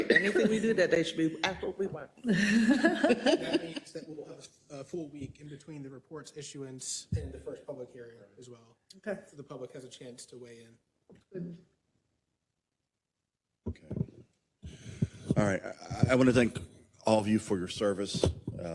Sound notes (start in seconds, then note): 2.3 laugh